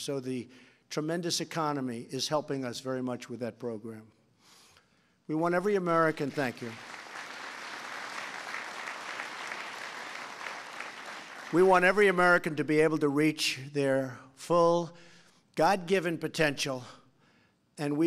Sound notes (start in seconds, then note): 8.7 applause